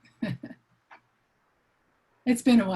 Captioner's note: laughs